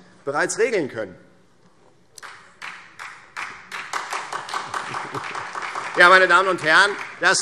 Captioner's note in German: Beifall Freie Demokraten und SPD